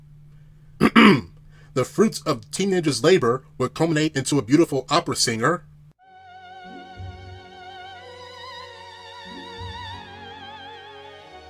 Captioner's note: ahem